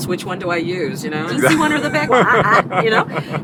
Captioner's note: laughter